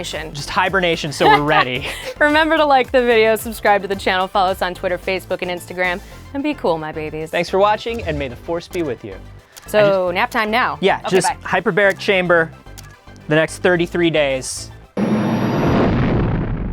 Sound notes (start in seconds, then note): 1.2 laughs